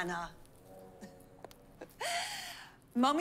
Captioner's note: chuckles